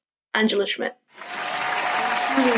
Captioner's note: applause